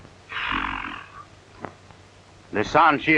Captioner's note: exhales heavily